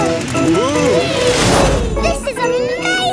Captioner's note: all exclaiming